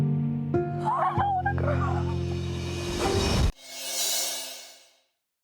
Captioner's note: crying loudly